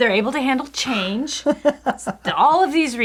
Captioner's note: laughing